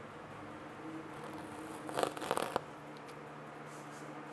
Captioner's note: tape ripping